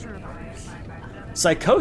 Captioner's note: background chatter